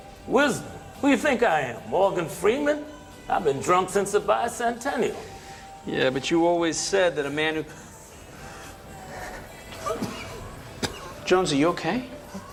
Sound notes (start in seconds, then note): 7.7 breathing heavily